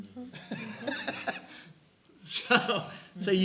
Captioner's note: laughs